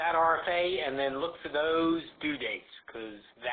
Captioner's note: voiceover